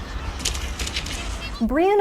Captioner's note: footsteps stomping